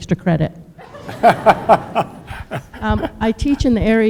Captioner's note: and audience laughs